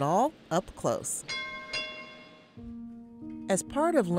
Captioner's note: trolley bell ringing